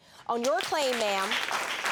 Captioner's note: applause